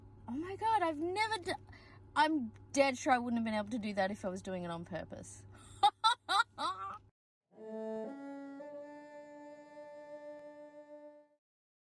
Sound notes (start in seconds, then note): 5.8 laughs; 7.6 three ascending cello notes, ending with a sightly clumsy vibrato